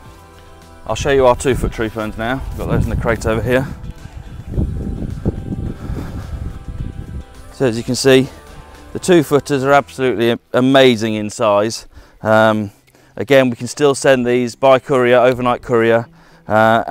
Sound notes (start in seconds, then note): 4.3 breeze whooshing; 5.7 breathes out